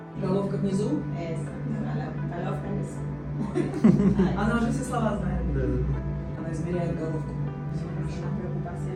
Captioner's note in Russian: все смеются